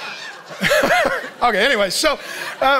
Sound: laughs

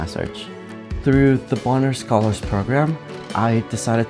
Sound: voiceover

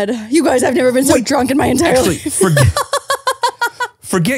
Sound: laughing

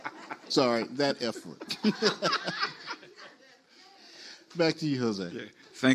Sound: panelists and audience laugh; panelists laugh

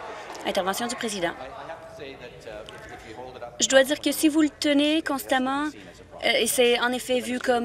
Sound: applause

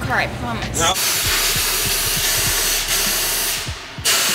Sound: air whooshing

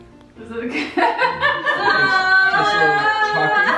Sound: laughs

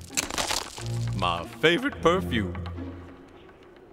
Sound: clopping sound

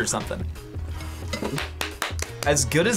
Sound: claps

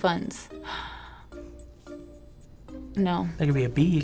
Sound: sighing

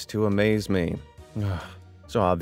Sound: narrator groans

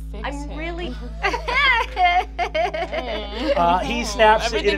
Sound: Fig laughing

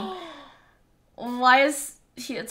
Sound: gasps

